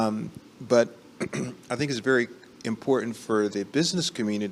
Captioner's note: clears throat